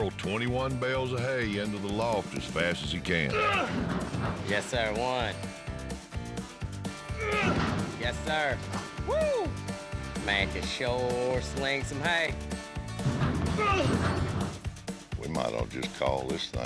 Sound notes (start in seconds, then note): 3.1 grunts; 7.1 grunts; 13.0 grunts